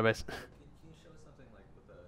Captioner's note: voiceover